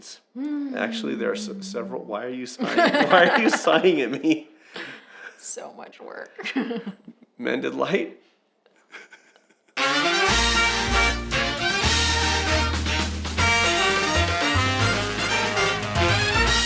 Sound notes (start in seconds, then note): 2.5 laughter; 9.8 upbeat music